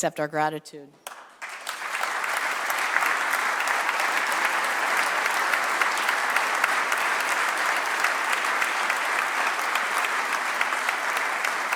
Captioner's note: applause